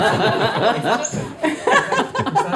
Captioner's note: all laughing